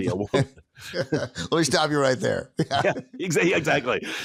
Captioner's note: chuckles